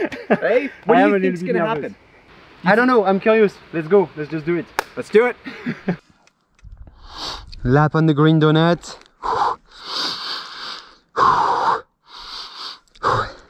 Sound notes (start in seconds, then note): 0.0 laughing; 10.4 panting